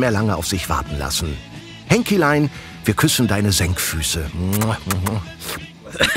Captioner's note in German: Kussgeräusch